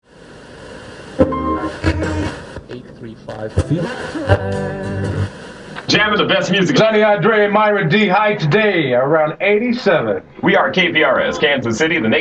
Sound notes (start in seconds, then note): 1.0 radio hissing; 3.5 light guitar music